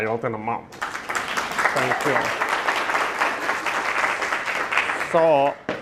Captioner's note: audience applauding